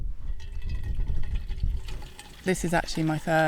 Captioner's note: water tinkling